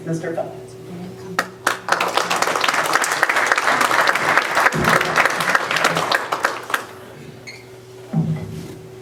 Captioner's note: applause